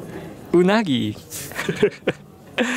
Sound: chuckles

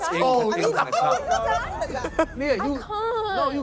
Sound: laughing

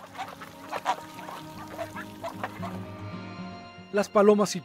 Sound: birds chirps and calls, ducks quacks

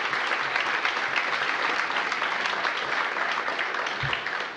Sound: applause

